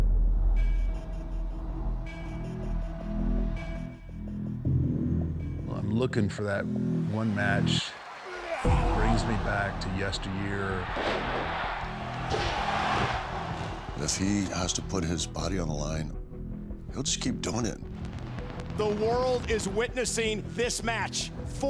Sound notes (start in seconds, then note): 0.1 dramatic music; 11.4 crowd cheering; 11.4 dramatic music